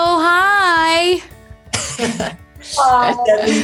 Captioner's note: laughing